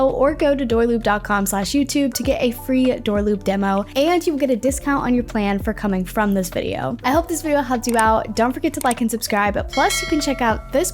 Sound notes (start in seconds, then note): 8.7 mouse clicking; 9.7 bell ringing